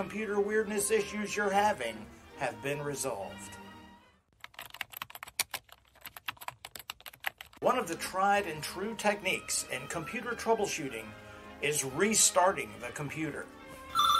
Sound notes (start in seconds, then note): 4.4 typing